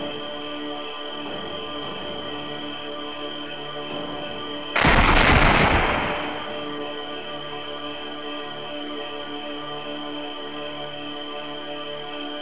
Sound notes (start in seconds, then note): 4.8 impact